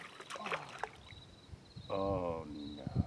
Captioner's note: splash